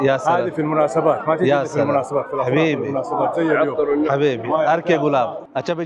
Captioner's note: Arabic